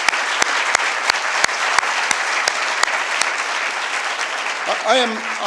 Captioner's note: applause